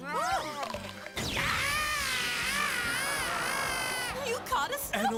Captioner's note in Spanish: gritando